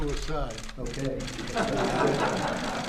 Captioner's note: laughter